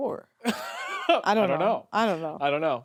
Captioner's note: laughs